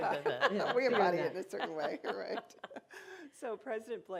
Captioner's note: laughter